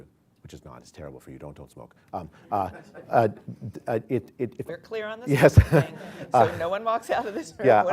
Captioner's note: laughter